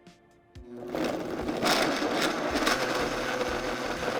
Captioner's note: blender whirring